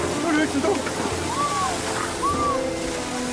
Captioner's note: screams from the crowd